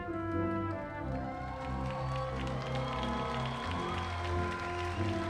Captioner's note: audience cheering